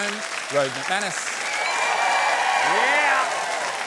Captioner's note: cheering and applause